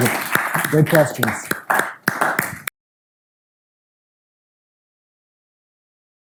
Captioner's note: audience applauding